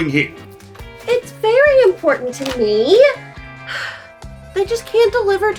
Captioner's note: sigh